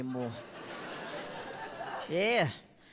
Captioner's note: audience laughs